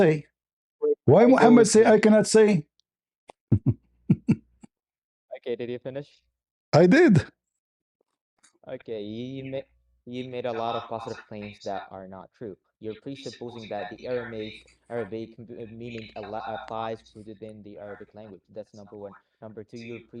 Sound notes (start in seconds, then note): 4.1 laughter